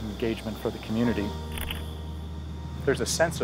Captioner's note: camera shutter clicking